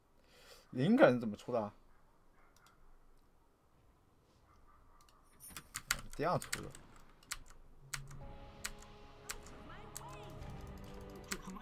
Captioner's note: dog